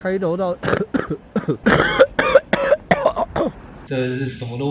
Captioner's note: cough